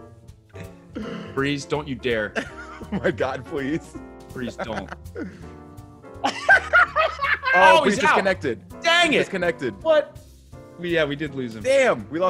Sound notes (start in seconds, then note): 6.2 laugh